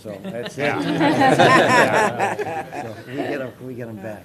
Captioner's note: laughter